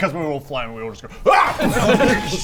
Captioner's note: boof